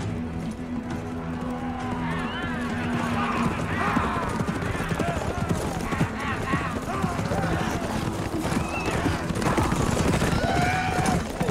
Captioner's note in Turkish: Bağırma ve nal sesleri